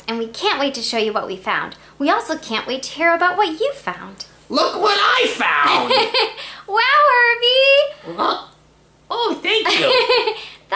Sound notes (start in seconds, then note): 5.6 laughs; 9.6 laughs